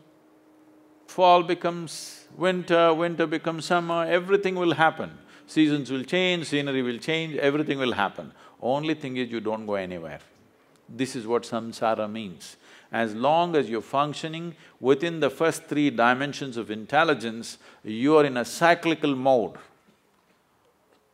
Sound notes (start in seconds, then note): none